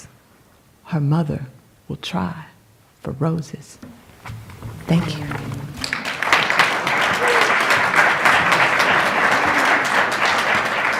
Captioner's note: applause